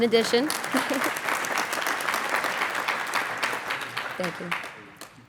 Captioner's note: applauding